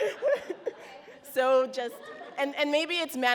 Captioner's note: audience laughs